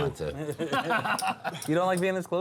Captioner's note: luagher